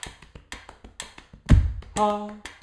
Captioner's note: tapping and ticking sound